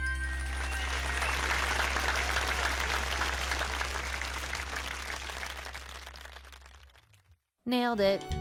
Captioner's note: applause